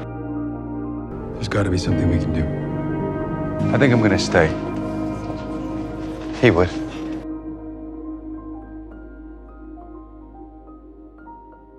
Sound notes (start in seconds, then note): 1.5 voiceover